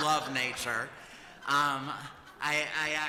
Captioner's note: laughter